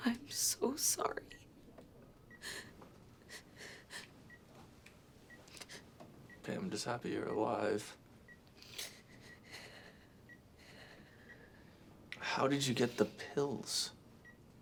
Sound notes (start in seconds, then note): 0.0 Ashley sobs over beeping monitors; 3.2 sobs; 8.6 Ashley sobbing